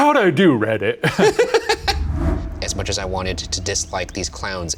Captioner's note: laughing